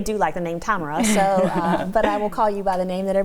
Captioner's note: laughs